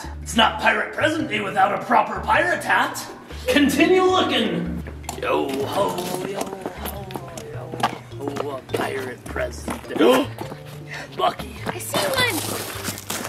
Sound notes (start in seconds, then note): 10.2 gasps